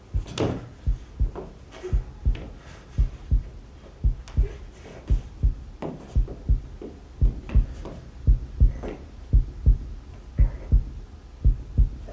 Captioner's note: heart beating; stomps; heart beating